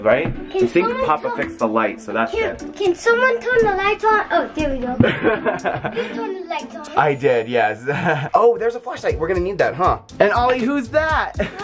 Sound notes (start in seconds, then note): 4.9 laughing